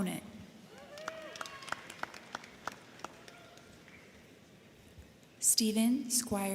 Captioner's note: crowd cheering; crowd clapping